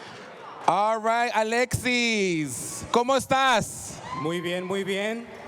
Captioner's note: speaking spanish